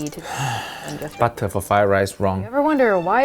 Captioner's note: exhales deeply